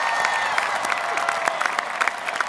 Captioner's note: applause